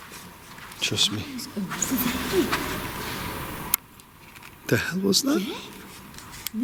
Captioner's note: speaking faintly